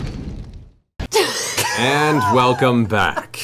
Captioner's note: laughing